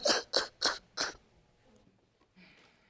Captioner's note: sobbing